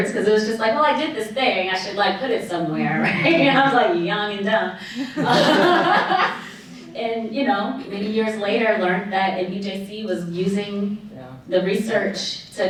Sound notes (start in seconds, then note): 2.8 audience chuckling; 5.1 audience laughing